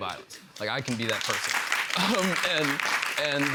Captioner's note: laughter and applause